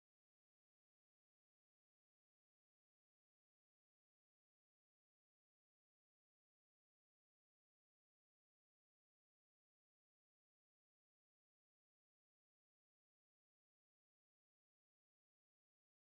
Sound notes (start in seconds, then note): none